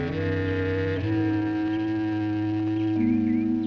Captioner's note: birds chirping